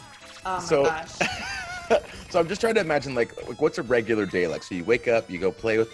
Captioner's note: laugh